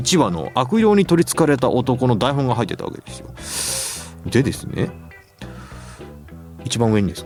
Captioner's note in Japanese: 鼻息